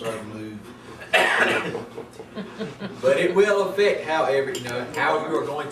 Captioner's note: group chuckles